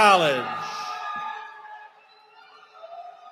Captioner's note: cheering